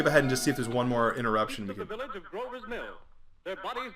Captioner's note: radio